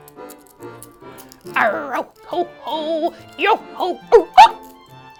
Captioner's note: playful music; hiccups